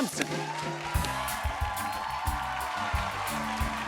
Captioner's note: cheers and applause